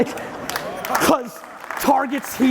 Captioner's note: audience laughing; audience applauding